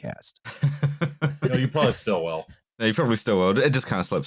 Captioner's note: laughs